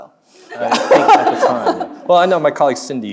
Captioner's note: laughing; audience laughing